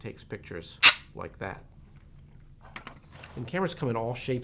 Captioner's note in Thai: เสียงกล้อง